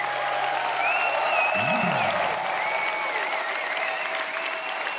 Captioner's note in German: Applaus, Jubel